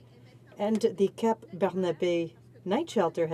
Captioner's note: speaking French